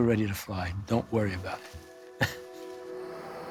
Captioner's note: chuckles